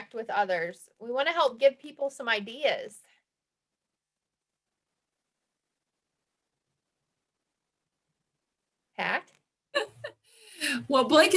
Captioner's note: laugh